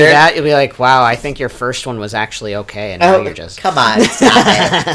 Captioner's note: laughs